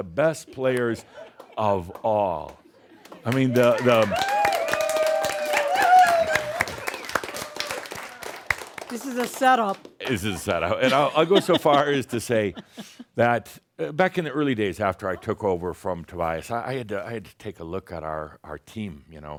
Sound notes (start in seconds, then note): 3.1 more cheers and applause; 12.5 chuckles